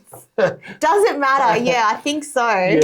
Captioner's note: chuckling